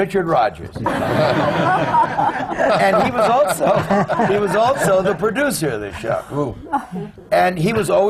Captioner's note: laughter